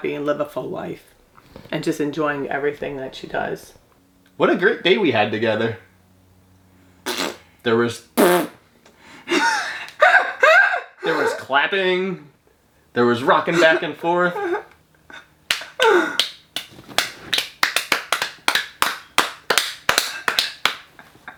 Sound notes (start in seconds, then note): 8.1 blowing raspberry; 8.1 blows raspberry; 9.2 laughing; 16.1 both clapping; 16.5 clapping